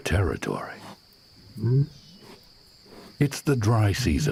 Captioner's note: insects chirring